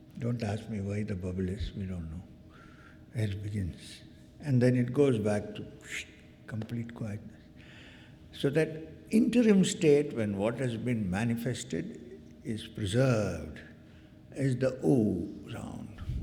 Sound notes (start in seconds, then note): none